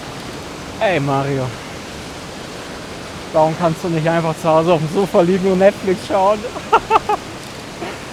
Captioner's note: nervous laugh